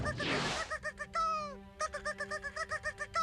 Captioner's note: imitates chirping